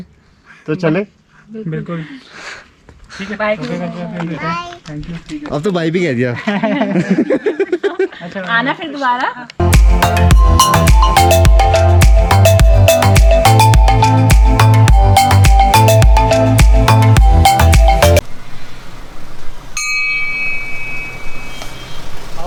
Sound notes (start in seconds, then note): 6.4 laughs